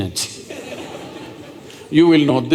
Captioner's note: laughter